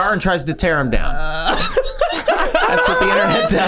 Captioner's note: gang laughing